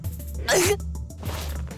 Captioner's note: pained groan